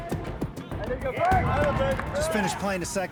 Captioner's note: cheers and applause